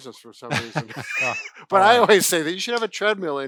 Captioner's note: laughing